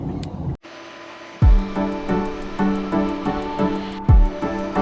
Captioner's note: vacuum motor whirs